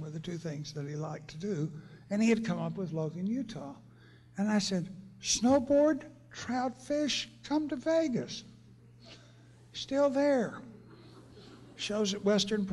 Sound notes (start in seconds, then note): 10.8 laughter